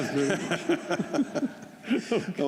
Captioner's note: laughter